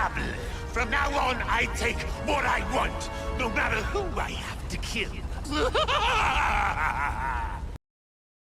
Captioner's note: laughing